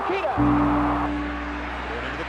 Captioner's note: applause